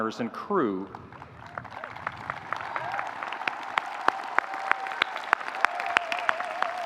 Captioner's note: audience applauding; audience cheering